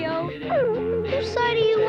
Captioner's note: whimpering